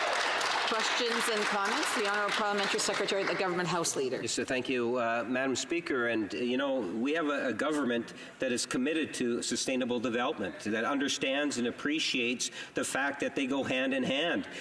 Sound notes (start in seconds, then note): 3.6 applause